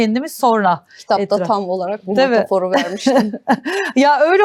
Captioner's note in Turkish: kahkaha